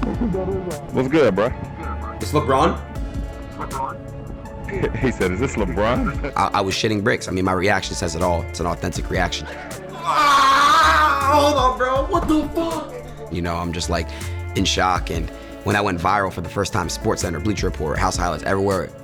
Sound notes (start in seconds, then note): 4.7 laughs